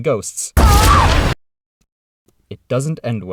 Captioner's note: scream